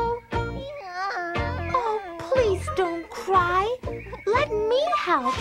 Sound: cries

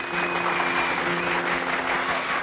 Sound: clapping and whistling

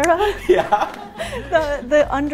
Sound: laughing

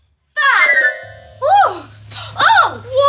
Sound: playful magical sound

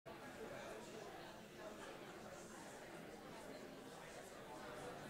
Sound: indistinct background chatter

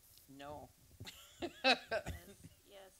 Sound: chuckles

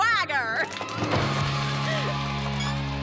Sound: cheering

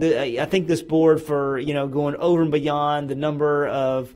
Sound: none

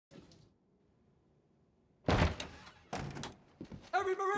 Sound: door bangs

